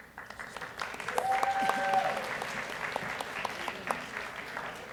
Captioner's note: audience cheers and applauds